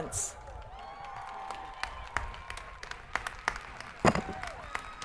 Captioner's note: crowd applauding